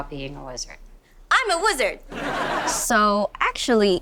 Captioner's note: audience laughing